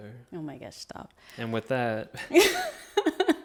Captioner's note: chuckles